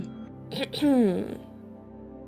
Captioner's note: clears his throat